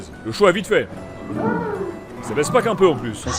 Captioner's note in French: Jouissements d'un homme et d'une femme